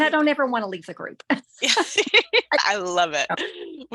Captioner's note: both laughing